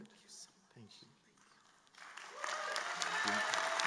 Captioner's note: applause